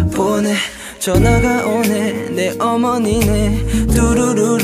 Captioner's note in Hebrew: צליל של טלפון